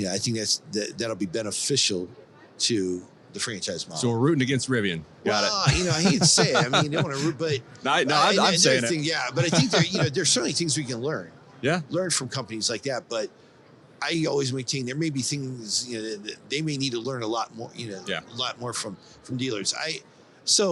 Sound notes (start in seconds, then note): 5.4 laughs